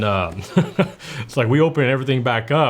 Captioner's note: laughs